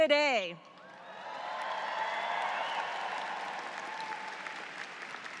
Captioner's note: audience cheers